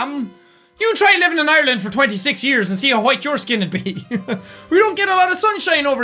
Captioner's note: laughs